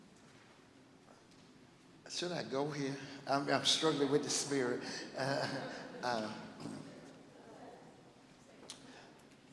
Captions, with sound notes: Should I go here? I mean I'm struggling with the spirit (laughs).